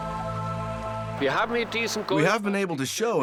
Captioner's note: speaking German